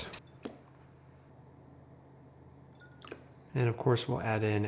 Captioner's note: vanilla sloshes